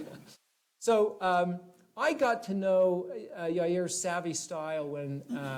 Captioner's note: laughter